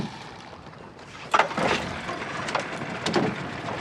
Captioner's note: motor starting